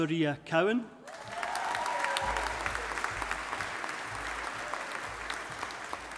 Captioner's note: audience applauding